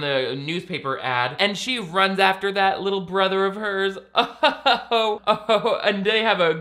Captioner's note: laughs